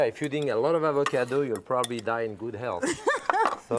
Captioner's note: laughter